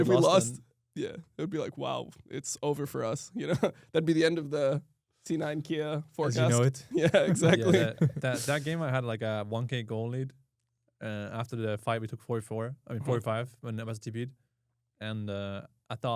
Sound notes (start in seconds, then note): 3.3 laughs; 6.9 chuckles